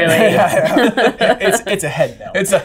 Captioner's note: laughter